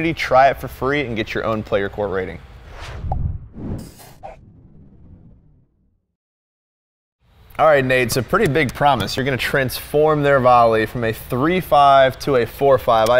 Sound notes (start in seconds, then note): 2.6 logo whooshing